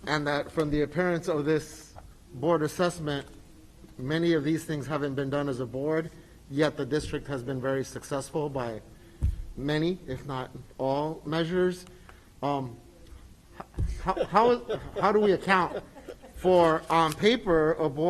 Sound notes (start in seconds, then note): 13.6 group laughs